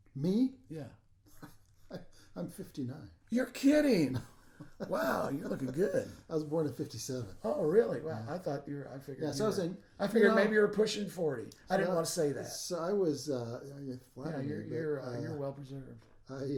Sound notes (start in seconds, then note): 1.3 laughing